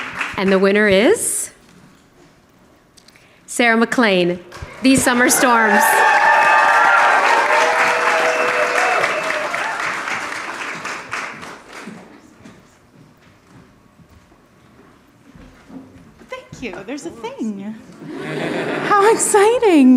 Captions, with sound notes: [audience cheering and applauding] And the winner is... Sarah MacLean, These Summer Storms. [audience cheering and applauding] Thank you. There's a thing. [audience laughing] How exciting.